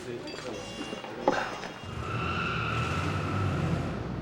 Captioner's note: tires screech